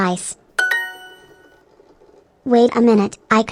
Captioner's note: Duolingo correct sound